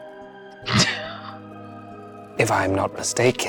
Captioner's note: chuckling